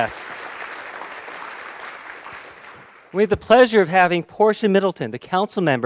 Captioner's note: applause